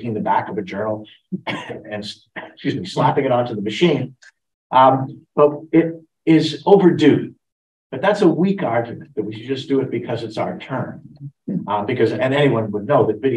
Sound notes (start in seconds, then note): 0.0 coughs